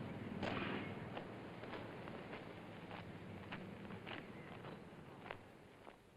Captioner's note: footsteps